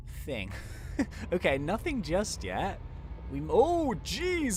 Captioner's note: chuckling